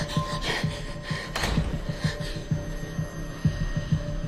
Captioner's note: panting; door closes